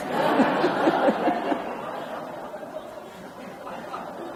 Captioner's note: audience laughs